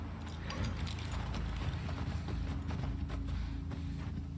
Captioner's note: hooves thudding